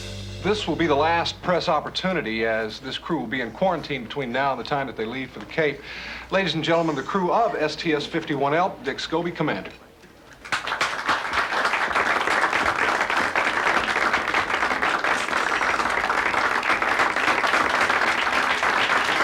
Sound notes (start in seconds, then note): 10.6 applauding